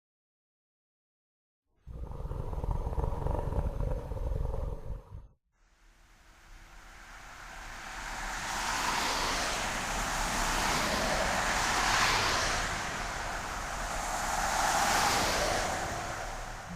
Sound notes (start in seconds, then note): 1.8 low roar of tiger; 5.7 sound of traffic passing